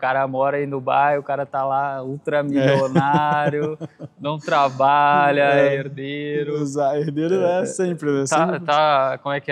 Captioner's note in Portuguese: risadas